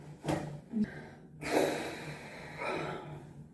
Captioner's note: big sigh